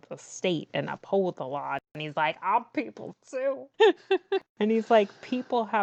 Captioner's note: laughs